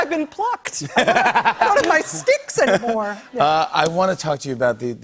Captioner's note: laughs